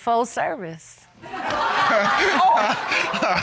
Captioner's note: laughter